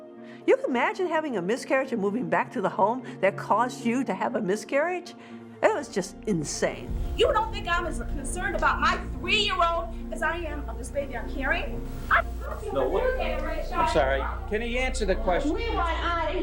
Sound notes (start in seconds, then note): 12.0 audience yelling